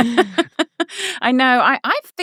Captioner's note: laughing